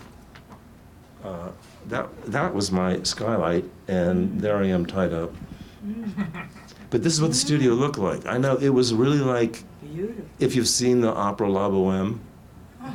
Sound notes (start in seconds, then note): 5.8 man snickers